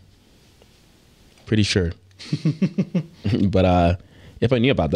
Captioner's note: laughing